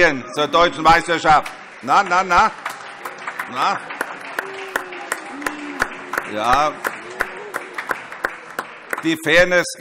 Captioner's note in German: Beifall - Zurufe: Buh!